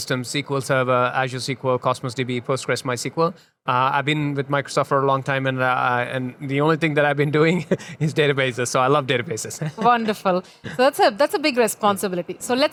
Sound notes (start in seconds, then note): 7.5 chuckles; 9.6 laughs